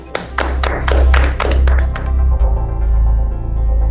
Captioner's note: applause